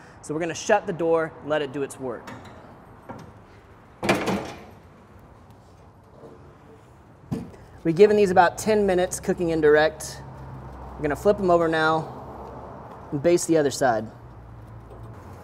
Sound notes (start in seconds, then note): 4.0 grill door clanks